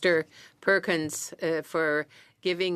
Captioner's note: speaking French